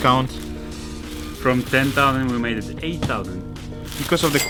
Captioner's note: dong